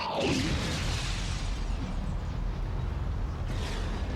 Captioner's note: explosion blasting